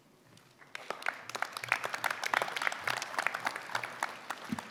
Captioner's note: applause